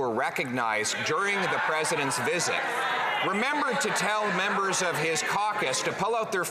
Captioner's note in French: voix de l'interprète